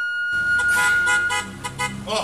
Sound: car horn honking

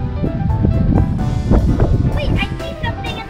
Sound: wind whooshing

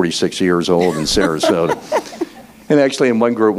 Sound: laughing

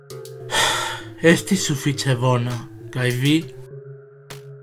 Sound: Suspiras

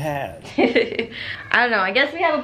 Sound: laughs

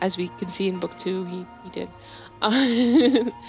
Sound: laughs

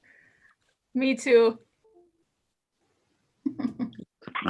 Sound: chuckles

